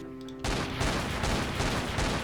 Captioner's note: just a few more gunshots